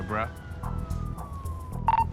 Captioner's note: dispatch radio beeping